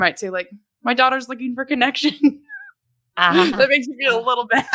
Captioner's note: laughs